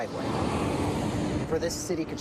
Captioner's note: engine roaring